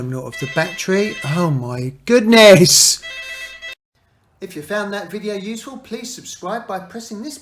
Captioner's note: phone rings